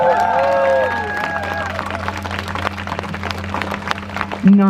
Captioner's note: crowd cheers